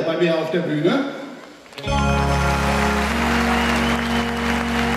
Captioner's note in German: Applaus, Musik aus